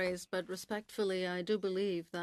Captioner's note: speaking French